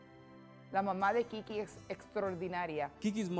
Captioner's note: speaking Spanish